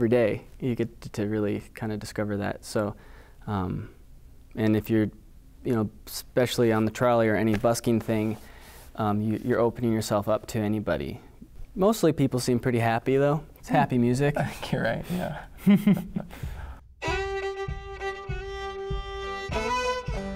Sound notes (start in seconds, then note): 15.6 laughing